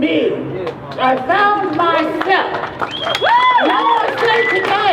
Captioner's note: crowd cheers